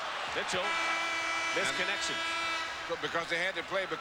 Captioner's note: horn blows